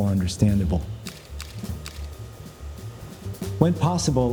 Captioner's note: camera clicking